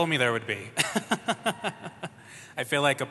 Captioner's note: laughs